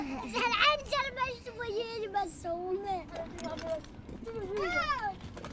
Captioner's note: speaking foreign language